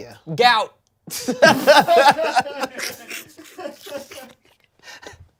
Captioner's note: everyone laughs